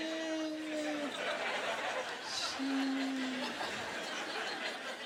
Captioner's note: laughter